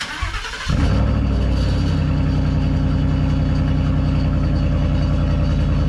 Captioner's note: truck rumbling